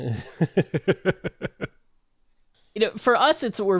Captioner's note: laughs